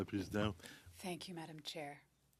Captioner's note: speaking French